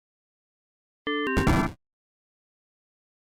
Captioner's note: error SFX